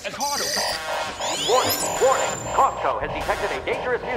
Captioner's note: automated Voice